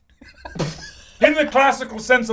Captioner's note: all chuckle